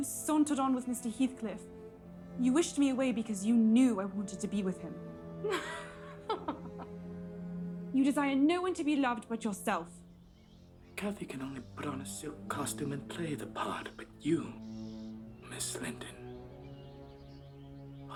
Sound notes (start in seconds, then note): 5.4 laughing